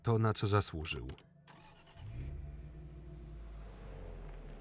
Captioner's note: engine starting